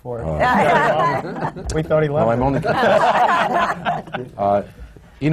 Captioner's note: laughter